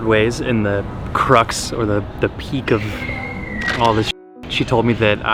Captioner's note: beep